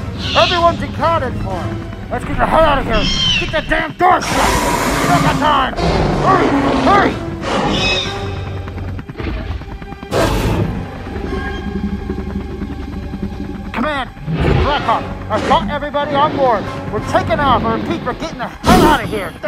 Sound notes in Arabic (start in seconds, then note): 7.6 أصوات T-Rex و Velociraptor; 10.6 أصوات محركات طائرات الهليكوبتر